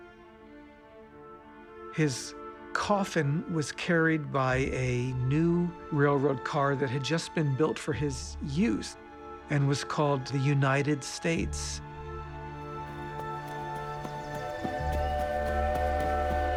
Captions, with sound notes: His coffin was carried by a new railroad car that had just been built for his use and was called the United States. [train whistle]